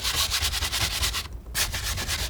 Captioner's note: scratching